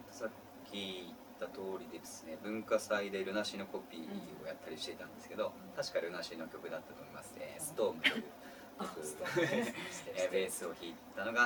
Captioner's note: laugh